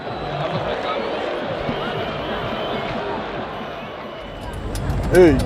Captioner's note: crowd murmuring